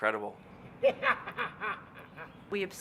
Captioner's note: laughs